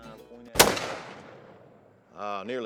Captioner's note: gunshot